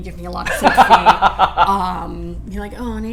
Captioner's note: laughter